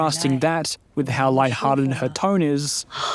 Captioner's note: in mandarin